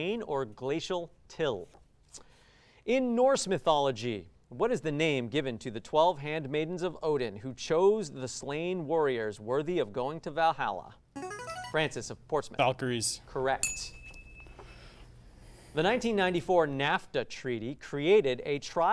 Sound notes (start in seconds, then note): 11.1 ring-in sound; 13.6 ding sound